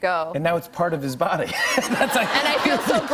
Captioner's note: laughter